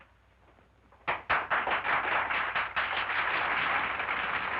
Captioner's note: women applauding